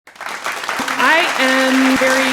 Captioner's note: applause